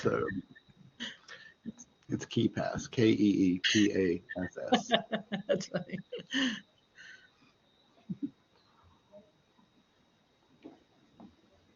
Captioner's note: laughter